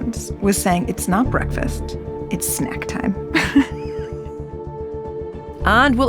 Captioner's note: laughs